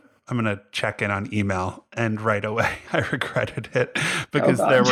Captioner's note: laughs